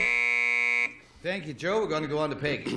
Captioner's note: buzzer